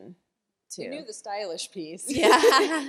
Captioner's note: laughter